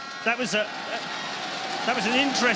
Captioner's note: applause